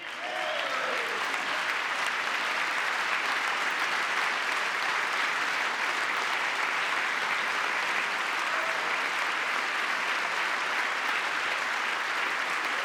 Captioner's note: applause